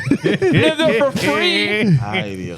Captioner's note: laughing